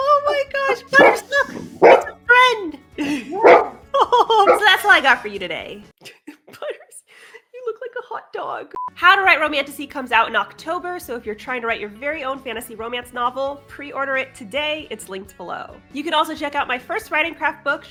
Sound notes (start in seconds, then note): 3.3 barks; 3.9 laughs